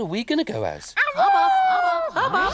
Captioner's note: laughs; Tula howls